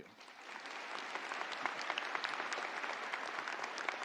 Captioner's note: audience applauding